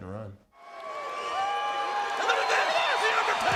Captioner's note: crowd cheering